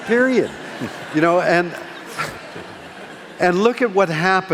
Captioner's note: laughing